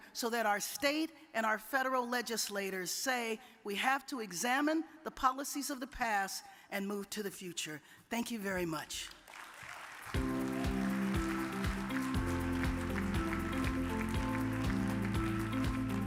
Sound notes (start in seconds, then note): 9.0 audience clapping; 10.1 upbeat music